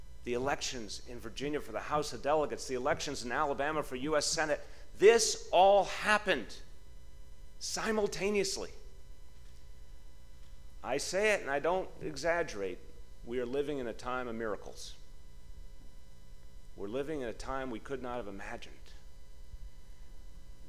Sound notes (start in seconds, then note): none